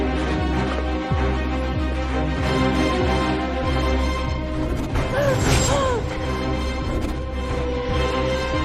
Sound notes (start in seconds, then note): 5.1 sobbing, breathing heavily